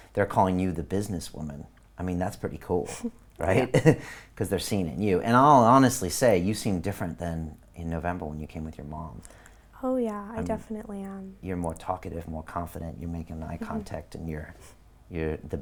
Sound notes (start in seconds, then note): 3.4 giggling